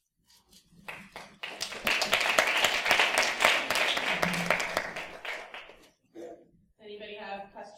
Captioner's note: applause